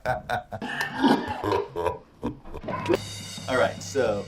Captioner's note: laughs; coughing in slow motion